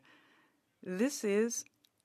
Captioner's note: speaking French